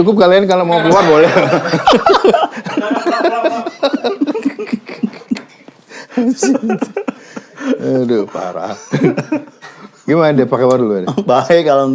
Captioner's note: laughs